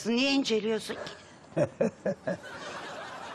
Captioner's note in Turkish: Gülme sesi